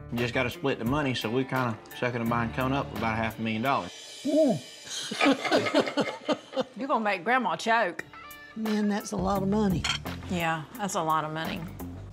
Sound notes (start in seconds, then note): 5.0 laughs